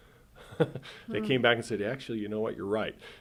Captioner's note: chuckles